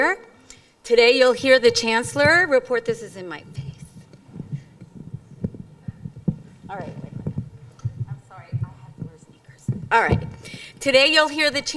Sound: moving mic

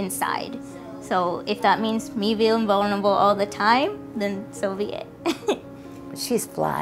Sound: laughs

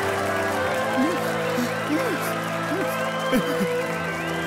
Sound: crying

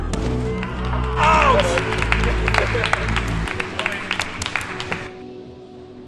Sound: applauses

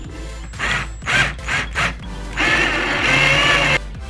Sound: drill screwing in

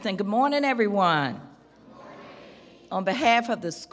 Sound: crowd

